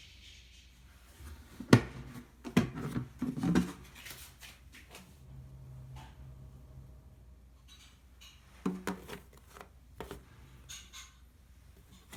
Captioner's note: folding